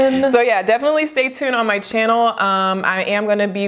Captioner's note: hands clap